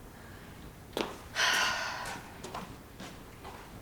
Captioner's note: sighs